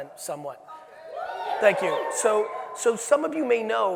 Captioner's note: audience cheering